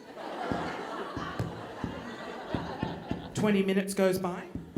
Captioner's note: microphone popping